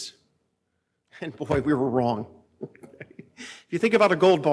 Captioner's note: laughs